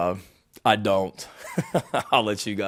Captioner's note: Shane laughing